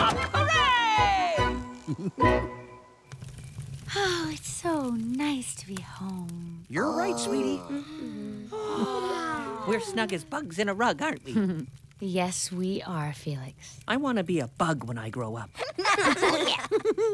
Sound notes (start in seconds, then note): 1.8 giggle; 6.7 yawn